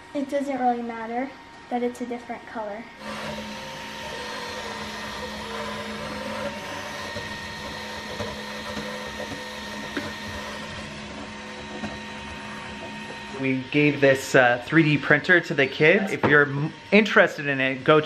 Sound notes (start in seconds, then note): 3.1 printer whirs